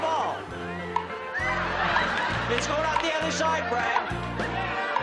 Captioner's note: carnival music; audience laughs